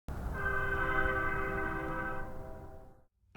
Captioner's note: train whistle